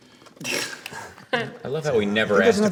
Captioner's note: light chuckling